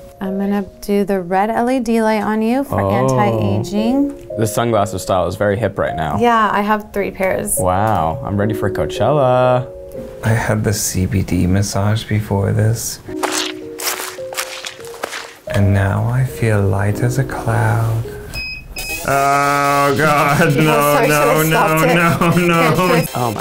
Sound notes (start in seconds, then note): 18.4 beeping